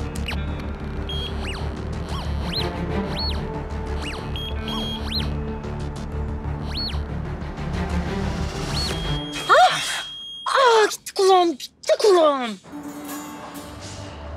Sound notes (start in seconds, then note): 0.1 detector sound; 6.5 detector sound gets stronger; 8.0 ringing sound; 12.6 thriller soundtrack